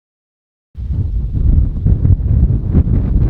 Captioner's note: wind howling